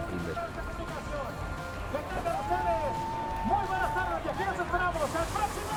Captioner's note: people cheering